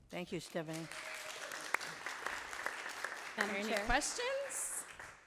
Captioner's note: audience applauding